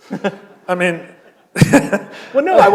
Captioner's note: laughter